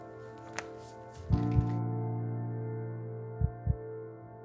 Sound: heart beating

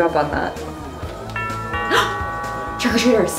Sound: doorbell Rings

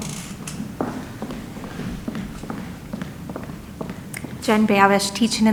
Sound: foot steps approaching

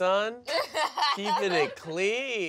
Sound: laughs

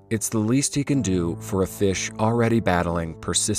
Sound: none

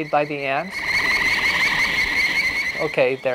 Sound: screeching

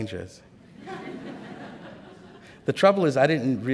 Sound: laughter

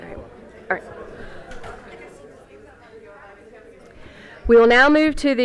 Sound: crowd chatter

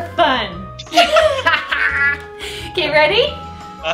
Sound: laughter

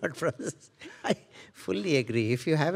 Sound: laughing

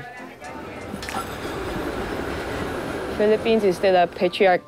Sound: people chattering; metro train creaking

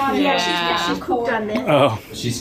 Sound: laughing

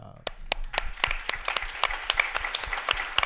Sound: applause

